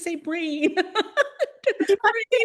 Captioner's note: laughter